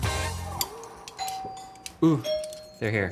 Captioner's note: doorbell rings